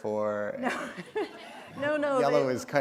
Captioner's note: chuckle